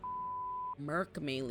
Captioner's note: beep